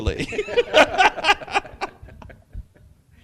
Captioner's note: laughter